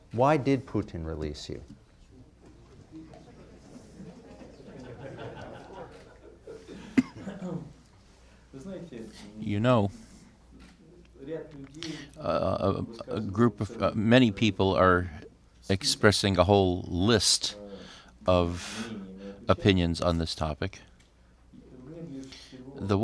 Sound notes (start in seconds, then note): 3.2 laughter; 6.7 through translator